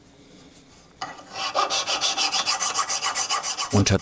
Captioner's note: high-pitched filing noise